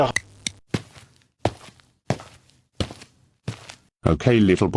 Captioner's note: footsteps